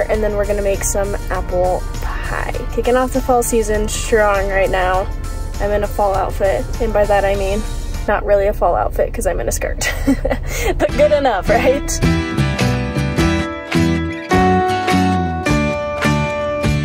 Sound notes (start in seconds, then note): 9.8 chuckles; 12.0 bright upbeat music